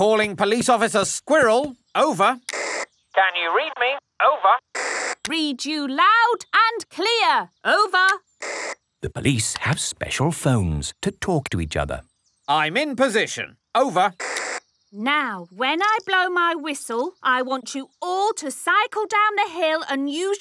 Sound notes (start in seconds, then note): 2.4 walkie-talkie crackles